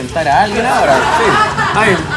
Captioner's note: laughs